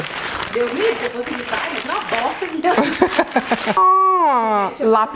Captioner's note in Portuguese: risos